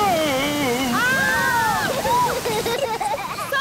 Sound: children laughing

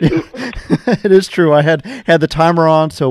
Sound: both laughing

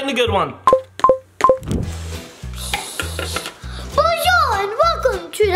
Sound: remote beeping

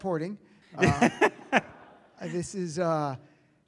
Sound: audience laughs

